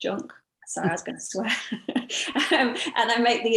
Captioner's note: laughs